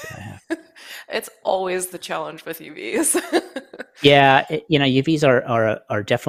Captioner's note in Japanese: 笑い